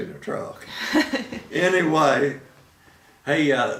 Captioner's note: laughing